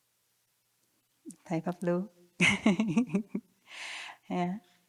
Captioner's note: chuckles